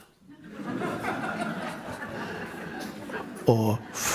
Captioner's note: crowd laughs